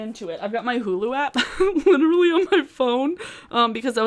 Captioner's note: laughs